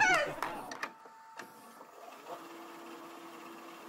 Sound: A VHS Tape Recorder Clicks and rewinds

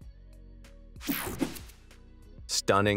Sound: air whooshing

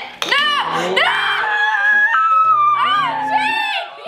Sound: screaming

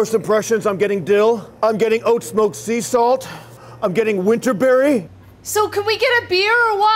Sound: inhales

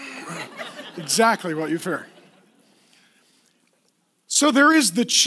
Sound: laughing

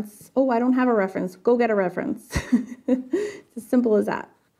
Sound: laughs

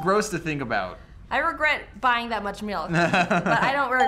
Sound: chuckles

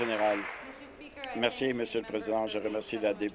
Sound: applause

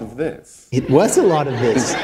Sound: laughter

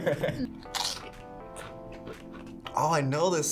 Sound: laughs; chip crunches

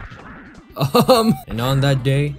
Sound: chuckle

